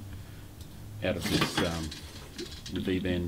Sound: metallic clattering

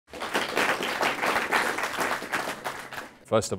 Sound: applause

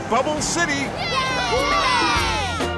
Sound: cheering

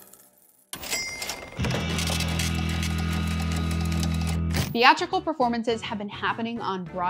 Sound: cash register ringing; cheerful music

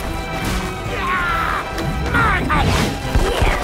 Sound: yell

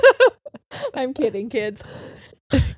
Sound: laughs

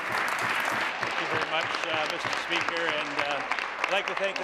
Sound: applause

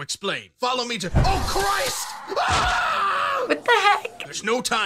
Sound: monstrous snarling

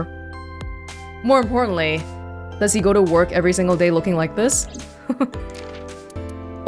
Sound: chuckles

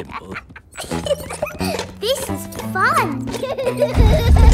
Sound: giggles

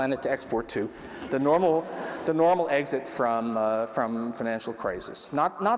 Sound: laughter

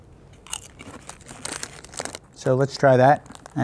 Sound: crunching chip

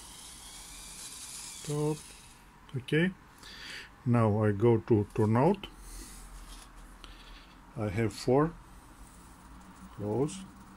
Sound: servos

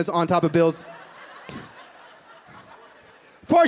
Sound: laughing

